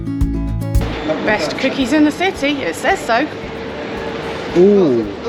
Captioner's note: laughs